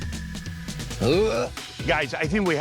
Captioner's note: gagging